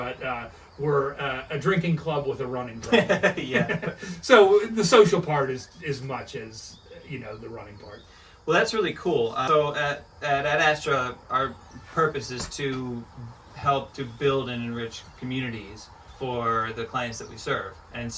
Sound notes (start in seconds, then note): 2.8 laughs